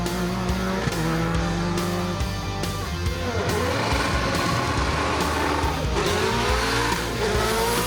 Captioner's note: engine revving